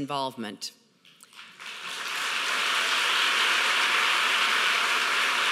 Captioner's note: audience applauding